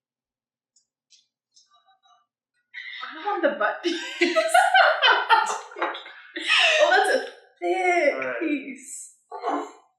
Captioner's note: laughter